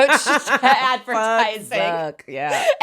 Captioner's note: both laughing